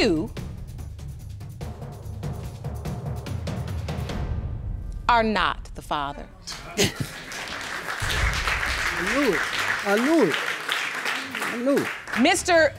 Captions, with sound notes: you are not the father. (BOTH MEN EXCLAIM) (AUDIENCE APPLAUDING) I knew it. I knew it. I knew it.